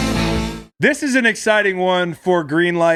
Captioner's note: none